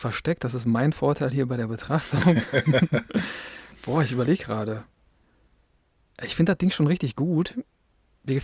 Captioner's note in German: gelächter